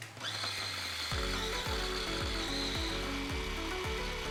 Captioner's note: blender whirring